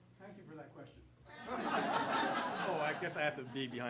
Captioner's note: audience laughing